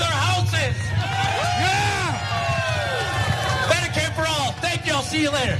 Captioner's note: applause